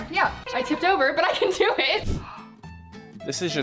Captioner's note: laughs